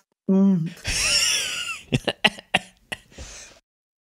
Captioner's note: wheezing